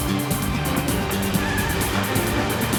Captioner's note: tires screeching